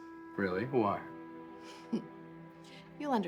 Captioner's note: giggling